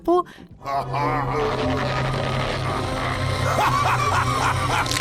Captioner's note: evil laughing